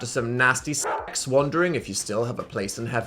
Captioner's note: dog barks